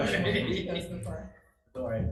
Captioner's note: people chattering